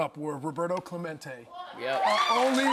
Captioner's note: audience cheering